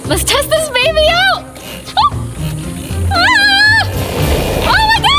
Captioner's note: screaming and squealing